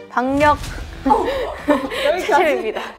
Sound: laughing

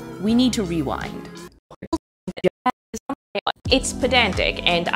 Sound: video rewinding

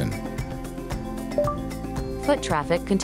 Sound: notification

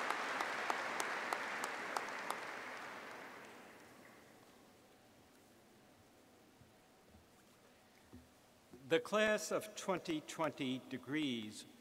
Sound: applause

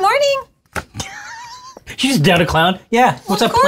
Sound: wheezes

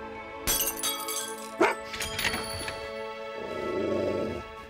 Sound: breaking glass; dog growling

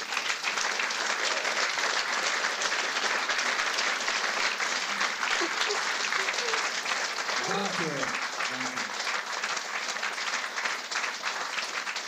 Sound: applause

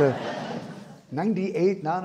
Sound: audience laughing

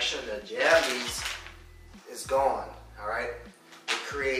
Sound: plastic crinkling

